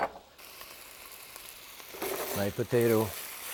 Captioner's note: bowl clinking; pan sizzling